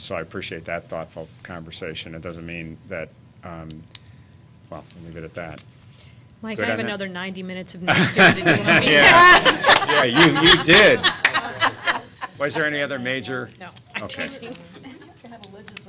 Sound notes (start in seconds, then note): 7.9 laughter